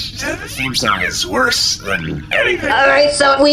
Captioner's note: groaning